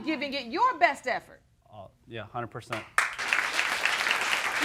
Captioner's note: audience applauding